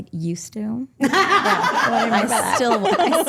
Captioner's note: group laughing